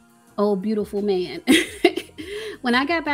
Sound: chuckles

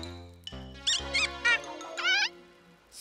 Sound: honk! squeak! honk

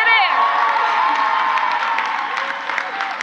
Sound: crowd applauds; crowd cheers

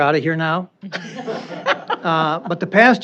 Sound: laughter

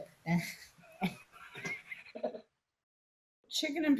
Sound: gentle laughter

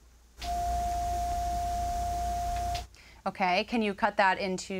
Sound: high-pitched tone

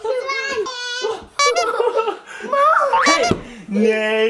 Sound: various sound effects

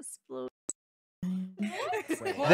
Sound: laughing

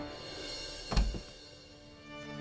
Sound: door opens

